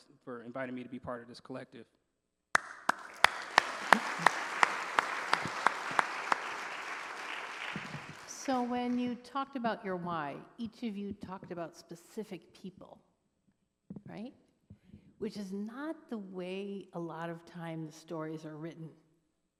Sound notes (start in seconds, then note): 2.5 applause